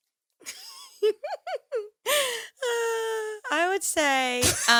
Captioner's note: all laughing